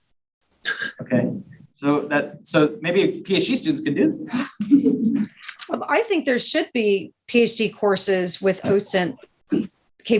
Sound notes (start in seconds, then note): 4.2 chuckling